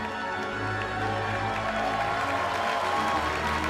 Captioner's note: cheers and applause